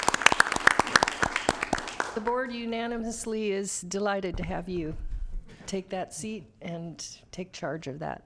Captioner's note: applause